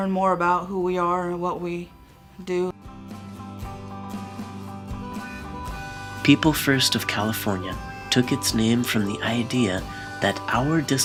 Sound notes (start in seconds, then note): 4.7 voiceover